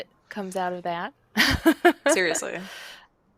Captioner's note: laughs